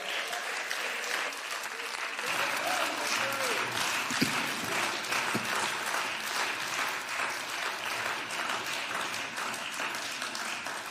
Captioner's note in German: Beifall